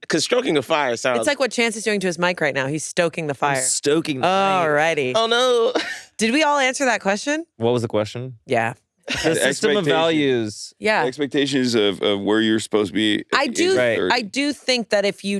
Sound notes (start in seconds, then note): 5.7 laughs